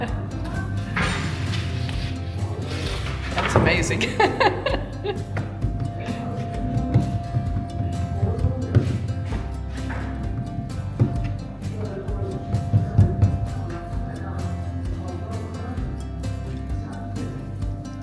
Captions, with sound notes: That's amazing. (laughs)